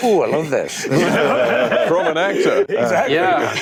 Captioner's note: laughter